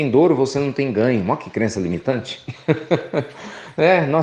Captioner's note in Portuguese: Risos